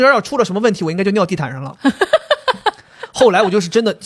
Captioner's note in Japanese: ははは